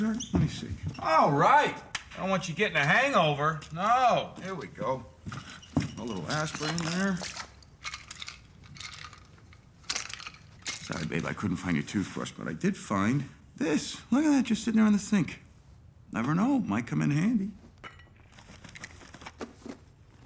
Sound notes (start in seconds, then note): 17.8 ring clings